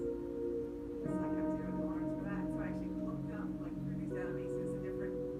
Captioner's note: muffled chatter